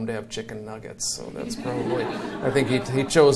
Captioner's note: audience laughs